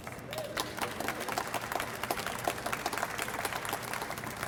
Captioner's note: audience applauds